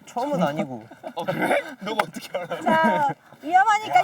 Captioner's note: laughs